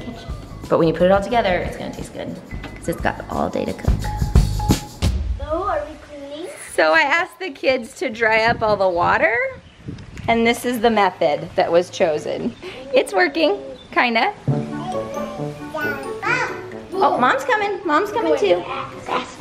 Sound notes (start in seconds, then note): 14.4 comical music; 14.8 babbles